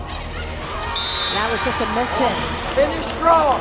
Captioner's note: voiceover